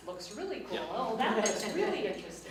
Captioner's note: laughs